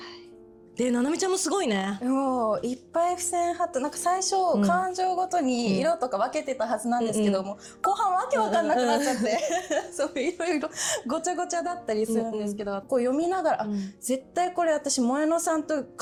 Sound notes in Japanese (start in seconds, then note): 8.4 笑い